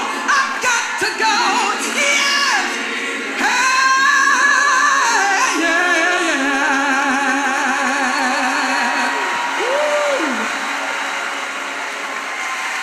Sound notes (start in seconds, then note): 8.0 crowd cheering